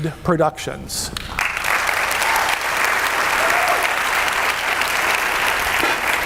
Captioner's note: audience cheering and clapping